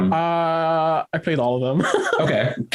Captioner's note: chuckles